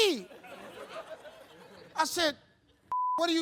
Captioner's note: audience laughing; beep